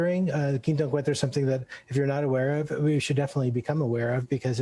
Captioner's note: speaks Spanish